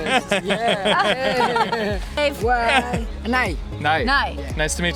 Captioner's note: laughs